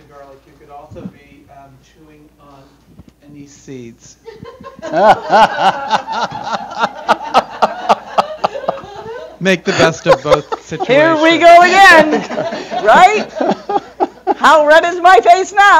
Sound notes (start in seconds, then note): 4.2 laughter